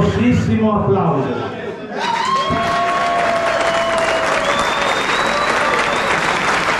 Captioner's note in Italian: Applauso